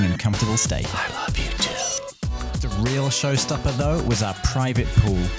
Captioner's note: whispers